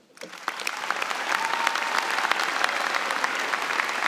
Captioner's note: applause